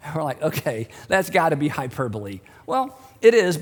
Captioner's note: laughs